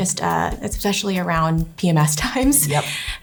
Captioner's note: chuckles